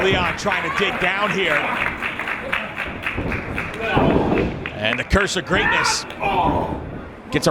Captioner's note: applause